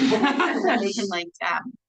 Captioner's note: everyone laughs